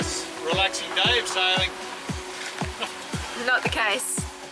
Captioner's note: laughs